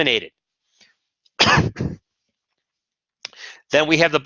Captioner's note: coughs